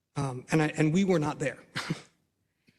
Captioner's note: laugh